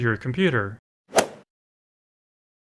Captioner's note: swoosh